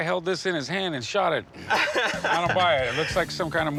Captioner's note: laughs